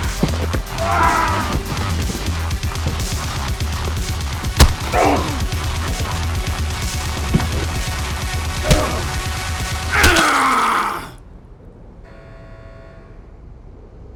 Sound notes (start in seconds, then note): 9.9 John screaming